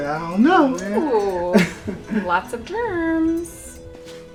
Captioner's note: Ed chuckles